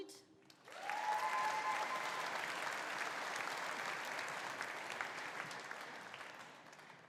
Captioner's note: audience applauding; audience cheering